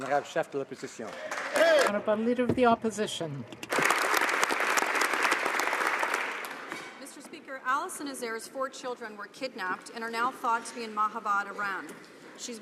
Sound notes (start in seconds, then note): 0.0 applause; 2.3 speaking French